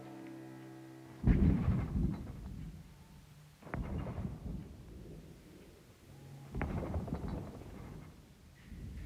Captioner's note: distant booming